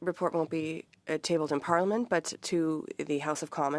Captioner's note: speaking French